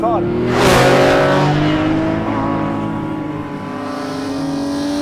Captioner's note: car engine revving